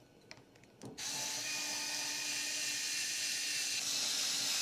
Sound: drill whirring

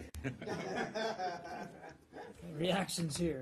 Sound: laughter

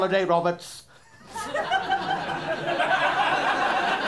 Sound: laughter

